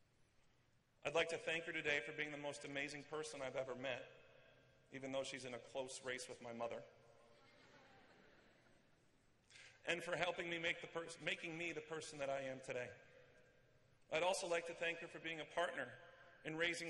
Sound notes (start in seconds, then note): 7.3 laughter